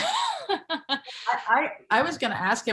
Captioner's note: laugh